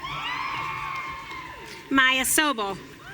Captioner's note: audience cheering